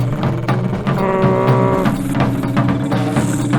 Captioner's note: truck honking